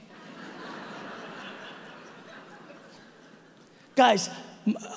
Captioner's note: audience laughing